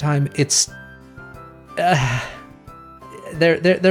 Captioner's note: exasperated sigh